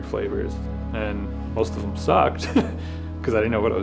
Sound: laughs

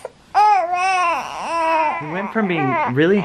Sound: cries

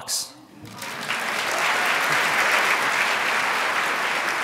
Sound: crowd applauds

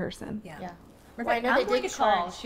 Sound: group chatter

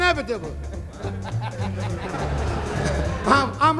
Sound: audience chuckling

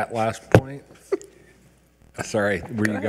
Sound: laughing

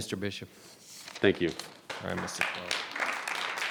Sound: audience clapping

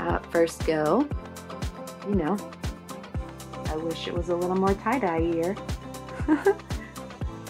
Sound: laughs

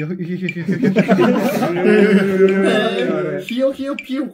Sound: laughing

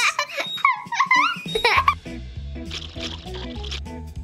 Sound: baby laughing

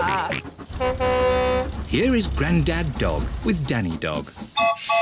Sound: all chuckle; horn blares; toots whistle

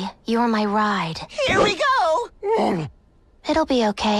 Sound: growl

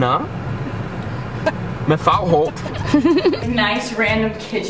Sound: laughs

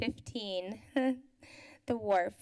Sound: laughter

